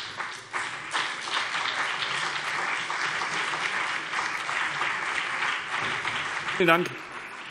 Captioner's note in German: Beifall BÜNDNIS 90/DIE GRÜNEN und CDU